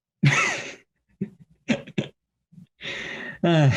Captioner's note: laughing